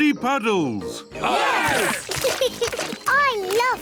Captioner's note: laughs; cheering